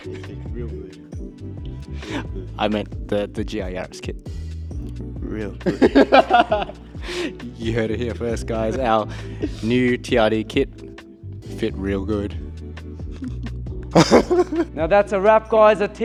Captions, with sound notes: (laughing) - It fit real good. - I meant the G.I. Yaris kit. - Real good. (laughing) - You heard it here first, guys. Our new TRD kit fit real good. Now that's a wrap, guys.